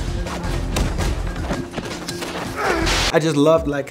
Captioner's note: thuds